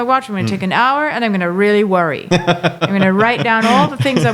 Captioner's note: laughing